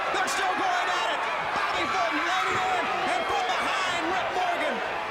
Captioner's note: people chattering